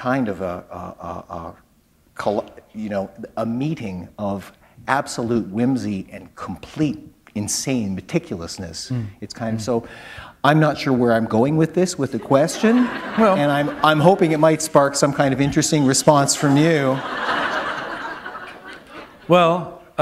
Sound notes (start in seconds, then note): 12.2 laughter; 17.4 laughter